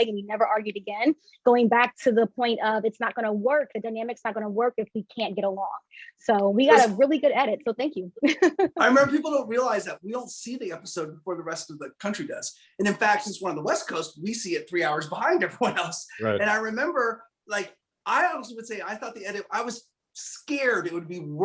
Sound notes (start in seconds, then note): 8.3 laughs